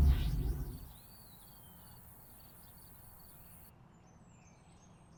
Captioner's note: birds chirping